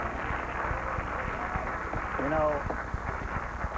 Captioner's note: applause